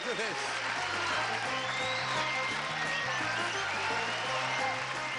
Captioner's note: applause